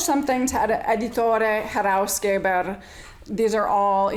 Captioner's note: speaking in foreign language